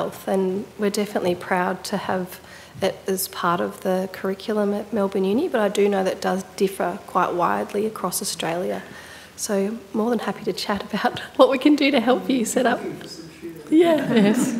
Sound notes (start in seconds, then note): 12.3 audience speaking faintly